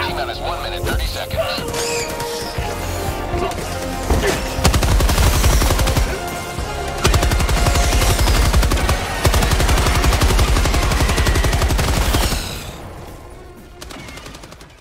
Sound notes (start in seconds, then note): 2.3 dramatic music; 3.4 guns blasting